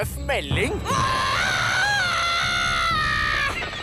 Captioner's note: echoing